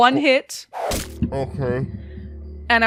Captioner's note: arrow flies past; one last ominous dice thump